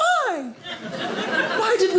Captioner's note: audience laughing